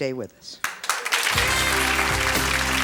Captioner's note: audience applauds